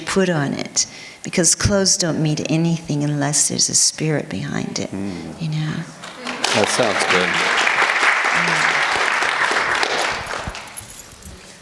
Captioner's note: applause